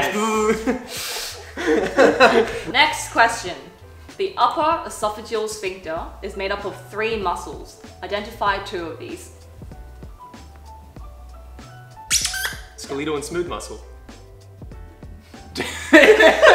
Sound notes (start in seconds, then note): 0.5 giggles; 12.0 squeaks